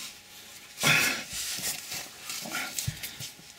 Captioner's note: humpfff